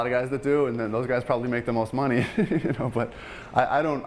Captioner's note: laughing